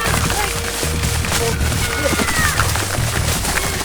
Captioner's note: distant yells